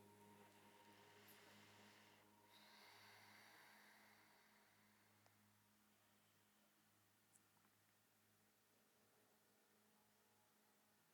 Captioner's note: inhaling deeply